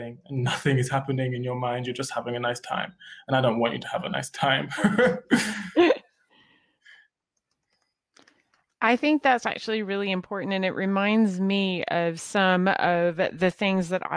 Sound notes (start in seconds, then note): 4.6 laughing